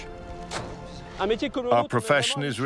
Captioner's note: speaking in foreign language